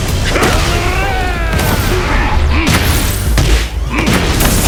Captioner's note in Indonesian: berteriak